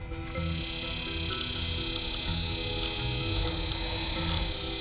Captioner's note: machine whirring